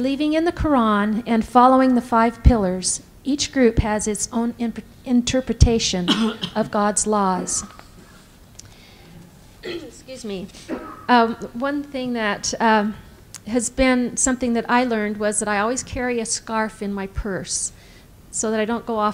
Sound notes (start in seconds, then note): 9.6 clears throat